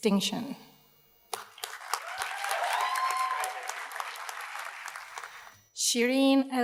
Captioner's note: audience cheers and applauds